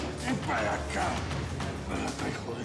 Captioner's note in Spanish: quejidos y tos de salvador